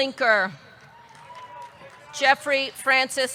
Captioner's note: audience clapping; audience cheering